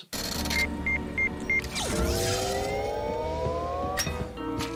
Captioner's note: machine beeping